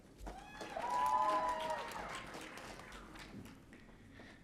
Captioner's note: audience cheering